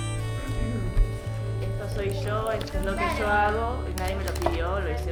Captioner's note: mouse clicking